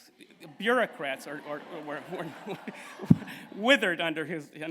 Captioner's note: laughter